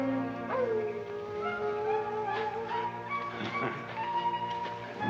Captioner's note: coyote howling